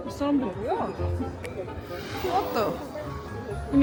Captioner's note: signal change